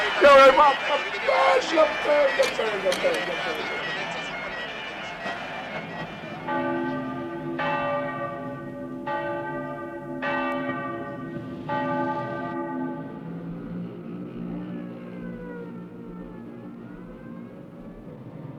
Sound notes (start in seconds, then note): 6.5 sound of bells; 13.6 traffic noise